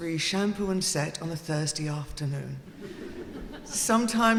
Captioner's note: audience laughing